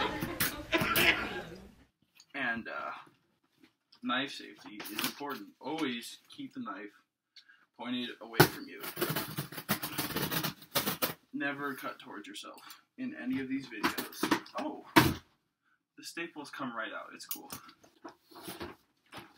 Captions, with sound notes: (cough) and uh knife safety is important always keep the knife pointed away from you never cut towards yourself in any of these videos OH the staples come right out it's cool